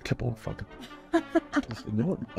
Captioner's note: laughs